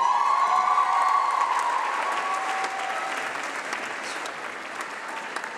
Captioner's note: applause